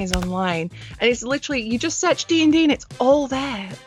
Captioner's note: none